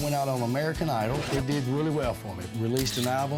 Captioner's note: camera shutter clicks